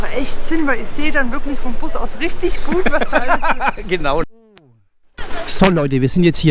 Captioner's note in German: lacht